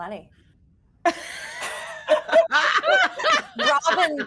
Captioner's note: all laughing